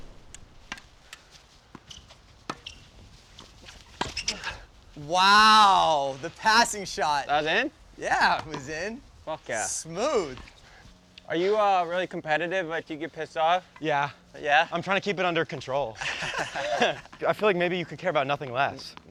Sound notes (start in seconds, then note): 15.9 and trainer laughs